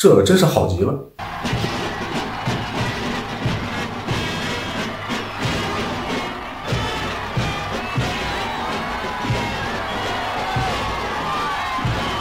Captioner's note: cheers